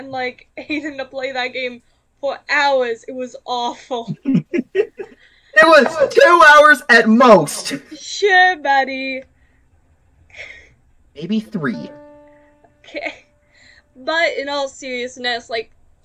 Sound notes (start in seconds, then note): 4.2 laughs slightly maniacally